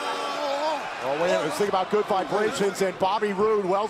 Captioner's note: crowd cheering